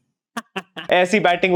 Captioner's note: laughing